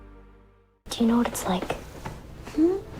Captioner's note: voiceover